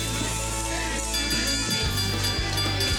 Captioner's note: bell dings